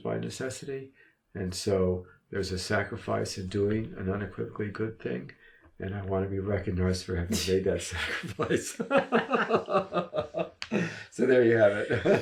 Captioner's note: both laugh